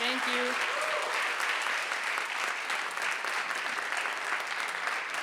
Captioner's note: audience applauding